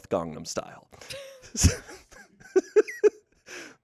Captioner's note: laughs